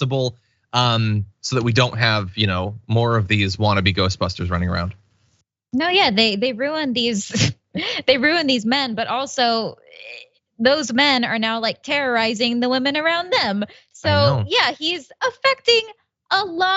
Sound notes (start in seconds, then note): 7.6 laugh